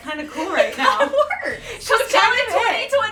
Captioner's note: laughs